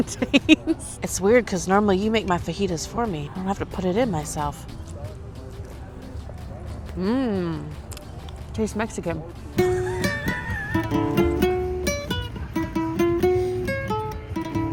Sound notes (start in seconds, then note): 0.0 laughs; 9.6 laughs; 11.0 live music